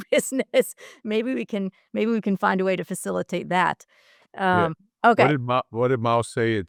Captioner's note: laugh